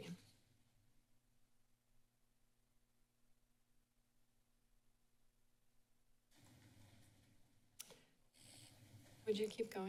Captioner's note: silence